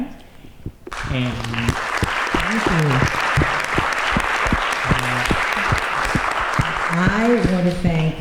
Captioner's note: applause